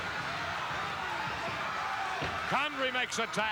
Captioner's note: audience cheering